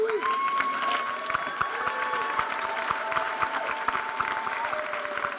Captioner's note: audience cheering and applauding